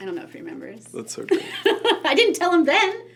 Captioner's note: laughs